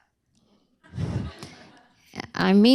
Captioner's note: laughter